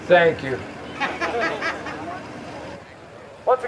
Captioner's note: laughter